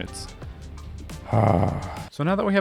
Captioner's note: exclaims in relief